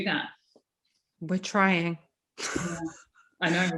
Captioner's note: laughs